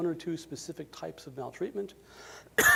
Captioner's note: coughs